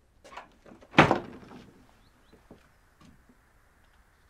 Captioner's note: door slams